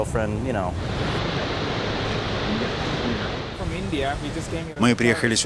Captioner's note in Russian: английская речь; шум водопада